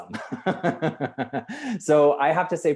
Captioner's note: laughs loudly